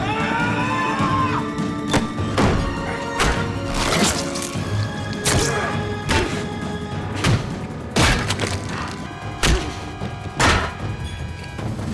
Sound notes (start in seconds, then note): 0.0 Paul screams; 0.2 intense music; 2.5 body thuds; 3.2 fist thuds; 3.6 flesh squelching; 6.1 face thuds; 9.4 fist thuds; 9.4 head thuds; 11.7 intense music